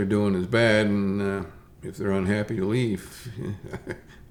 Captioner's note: chuckles